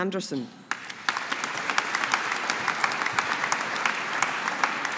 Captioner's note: audience applauding